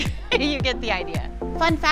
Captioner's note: laughs